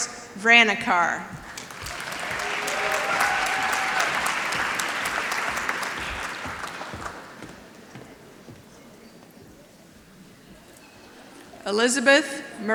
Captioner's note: applause